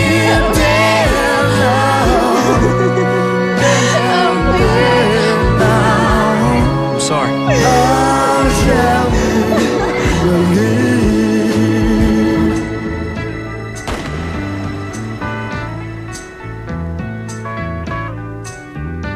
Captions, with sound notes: Adam. Adam, please, no. I'm sorry. [gunshot]